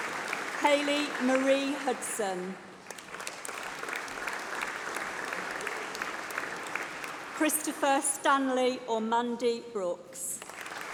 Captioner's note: applause